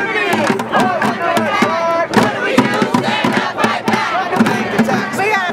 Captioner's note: chant